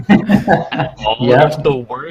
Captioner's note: laughter